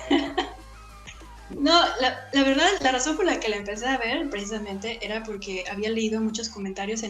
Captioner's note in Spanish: Risas